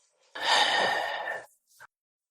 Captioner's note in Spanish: Suspiro